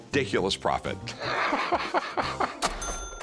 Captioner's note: laughter